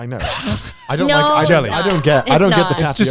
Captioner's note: laughs